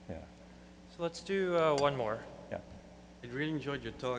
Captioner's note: voiceover